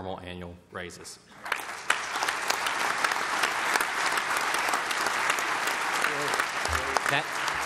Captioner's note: applause